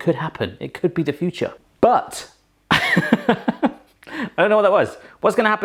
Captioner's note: chuckles